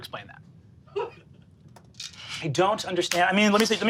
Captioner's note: laughs